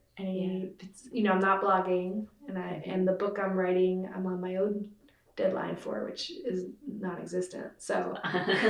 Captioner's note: laughter